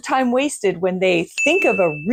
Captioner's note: bell dings